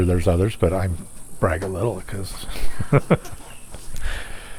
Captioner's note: chuckling